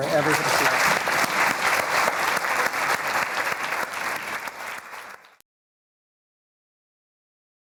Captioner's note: applause